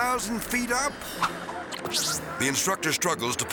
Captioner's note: whimsical music; rewind screeching